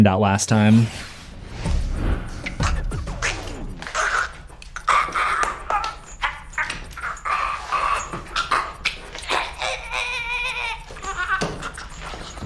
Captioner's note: terrible acting choking sounds